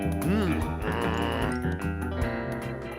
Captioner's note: groans